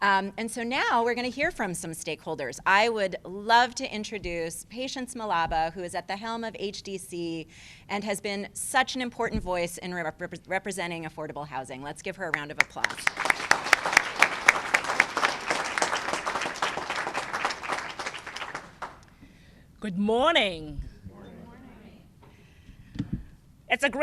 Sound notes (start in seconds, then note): 12.6 applause